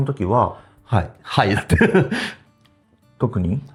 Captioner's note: laughs